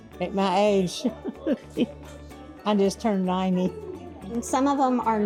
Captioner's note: laughs